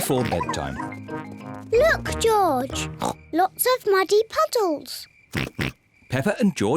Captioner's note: snorts